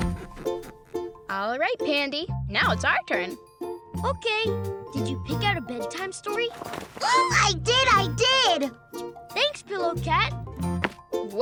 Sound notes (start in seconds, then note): 6.9 squeals